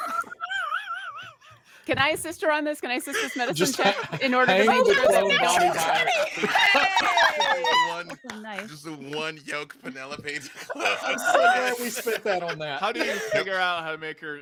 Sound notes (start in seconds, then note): 0.0 laughing; 5.1 murmurs